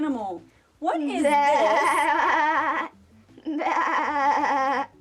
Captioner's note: bleating